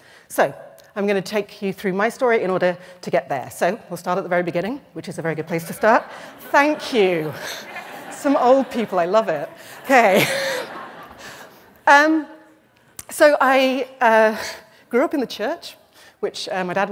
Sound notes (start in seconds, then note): 5.5 laughter